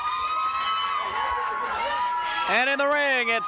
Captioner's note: bell rings